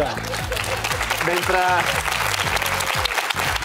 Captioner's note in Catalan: aplaudiments